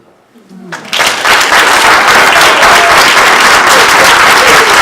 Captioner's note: applause